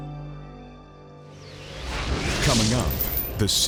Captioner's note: light mysterious music; graphics whooshing